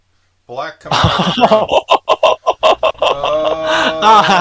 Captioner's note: laughing